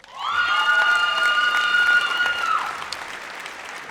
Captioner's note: audience cheers